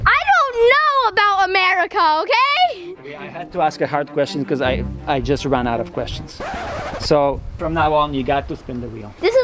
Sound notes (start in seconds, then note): 6.2 track scratches